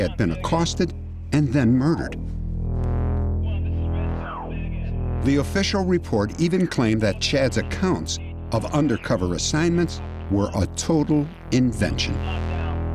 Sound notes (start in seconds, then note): 2.9 radio voices